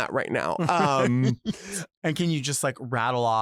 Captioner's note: Delta laughs